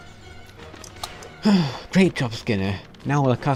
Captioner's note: sigh